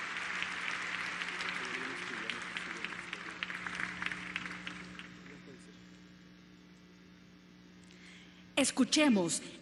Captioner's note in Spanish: aplausos